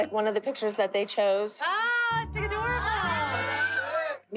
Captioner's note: all exclaiming